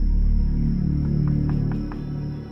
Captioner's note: knuckles rapping